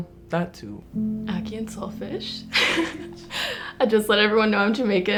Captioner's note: laughs